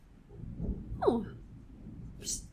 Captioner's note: none